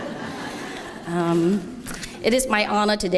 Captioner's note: laughter